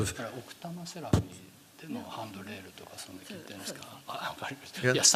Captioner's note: speaking japanese